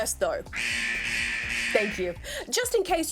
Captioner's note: klaxon blurts